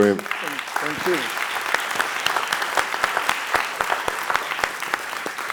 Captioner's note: applause